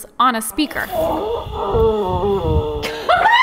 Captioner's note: coyote howling; laughs